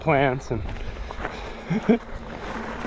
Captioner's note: laughs